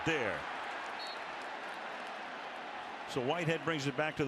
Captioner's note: whistle